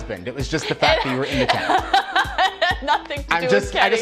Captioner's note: laughing